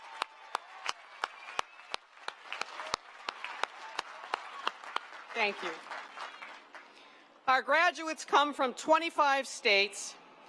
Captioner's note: cheering and applause